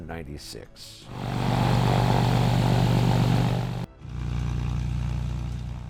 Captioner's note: plane engine roaring